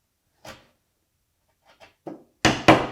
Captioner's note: mallet on desk clunking; chisel on wood scraping; mallet on chisel tapping